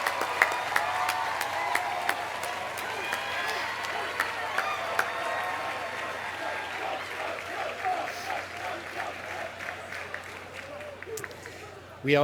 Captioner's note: applause